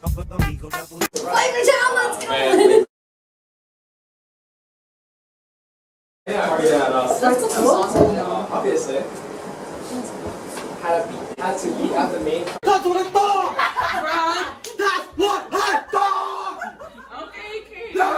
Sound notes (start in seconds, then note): 2.4 laughter; 6.3 general chatter; 13.3 laughter